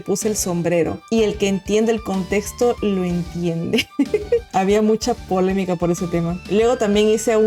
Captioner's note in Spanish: risas